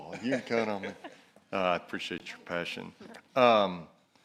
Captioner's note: laughter